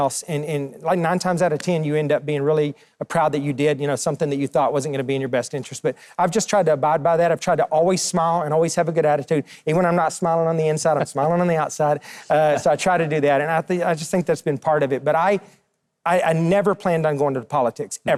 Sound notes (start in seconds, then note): 10.8 Mike laughs